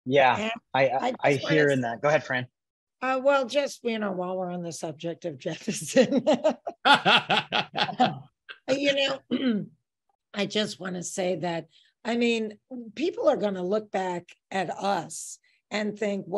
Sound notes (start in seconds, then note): 5.8 Fran and De laughing